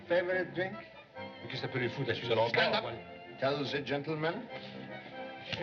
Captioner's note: French